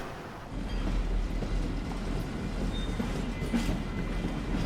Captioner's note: trem fazendo barulho